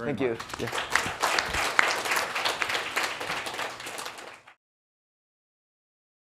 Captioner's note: applause